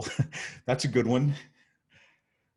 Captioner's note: chuckles